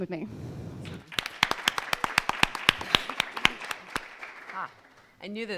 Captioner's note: audience and panel applauding